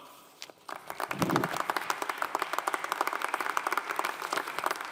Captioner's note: audience applauding